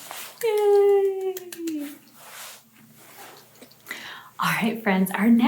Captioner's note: claps hands